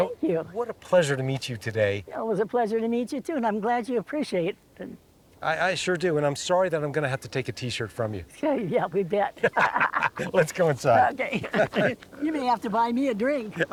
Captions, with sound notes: you're perfect too. -Why, thank you. What a pleasure to meet you today. -It was a pleasure to meet you too, and I'm glad you appreciate this. -I sure do and I'm sorry that I'm going to have to take a T-shirt from you. -Yeah, we bet. (laughter) Let's go inside.